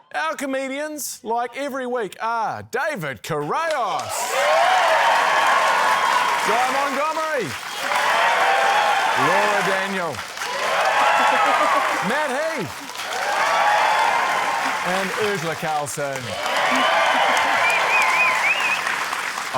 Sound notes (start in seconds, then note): 4.8 cheering, applause; 7.9 cheering, applause; 10.7 cheering, applause; 13.4 cheering, applause; 16.9 cheering, applause